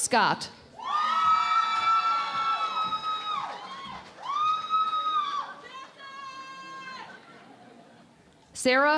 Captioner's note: cheering and Applause